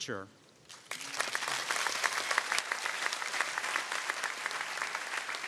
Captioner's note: audience applauding